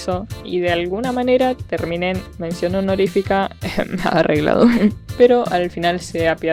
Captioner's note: EHEM EHEM rigged COUGH